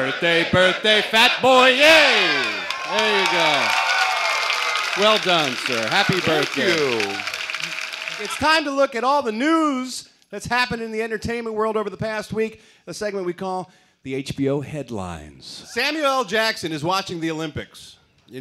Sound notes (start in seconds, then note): 0.5 singing; 2.2 cheers and applause